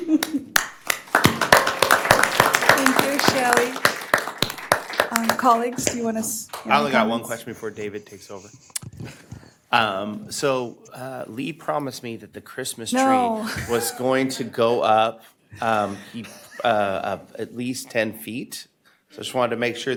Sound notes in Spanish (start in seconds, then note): 6.2 Aplausos